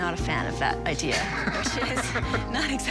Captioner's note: laughs